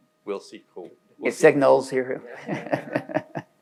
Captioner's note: laughs